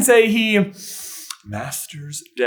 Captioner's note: inhales meaningfully